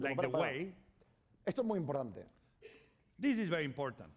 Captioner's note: speaking spanish